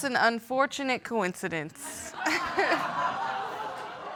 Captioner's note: audience laughing